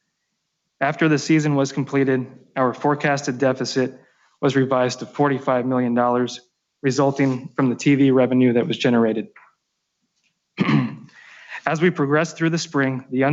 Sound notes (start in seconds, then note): 10.6 clears throat